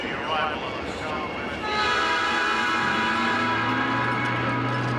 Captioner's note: train whistle blowing